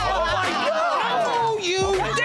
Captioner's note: shouting